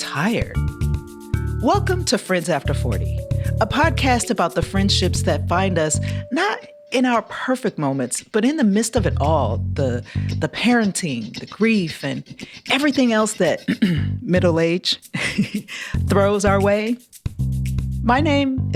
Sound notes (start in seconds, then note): 13.6 clears throat; 15.1 laughter